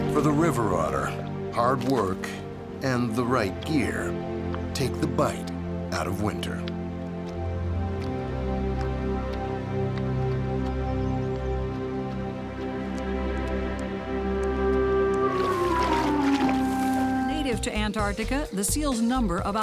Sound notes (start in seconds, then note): 14.3 water splashing; 14.5 light music